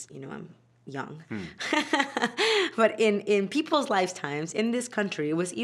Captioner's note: laughing